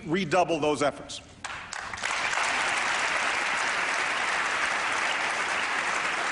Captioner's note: applause